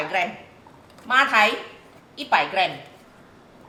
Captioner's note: Cantonese